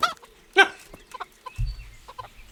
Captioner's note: cacklegasps